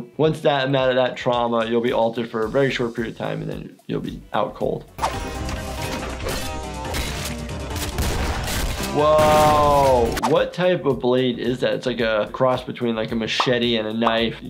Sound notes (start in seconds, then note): 5.0 active music; 5.0 weapon slashing; 7.7 gun shots